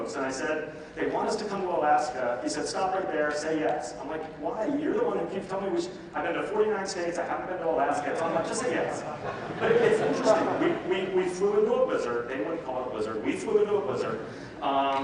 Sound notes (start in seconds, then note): 8.1 audience laughs